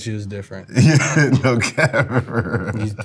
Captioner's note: laughs